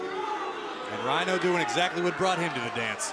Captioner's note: crowd cheering